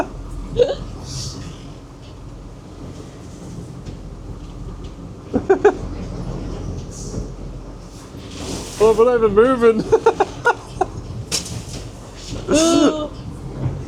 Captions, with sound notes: (laughing) I don't believe it, moving. (laughing)